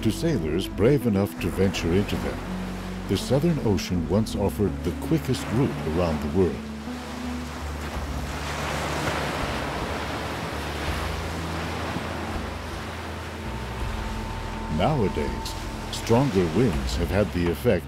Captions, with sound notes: To sailors brave enough to venture into them, the southern ocean once offered the quickest route around the world. (gentle music) (waves crashing) Nowadays stronger winds have had the effect